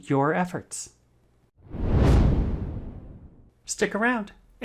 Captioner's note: air whooshing